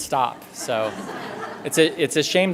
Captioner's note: laughter